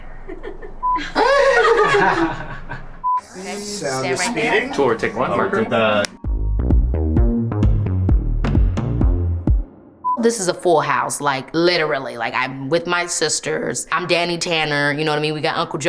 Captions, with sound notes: [crew laughing] - Sound is speeding. - Stay right there. - Tour take one. - Marker. [upbeat music] - This is a full house. Like, literally like I'm with my sisters. I'm Dani Tanner. You know what I mean?